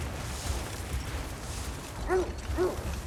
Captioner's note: none